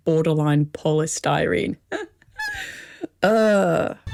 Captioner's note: laughing